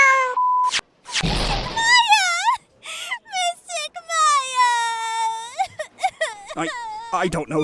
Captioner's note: cat meows, BEEP!; sobbing